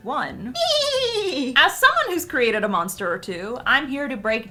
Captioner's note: neighs